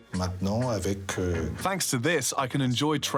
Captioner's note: speaking foreign language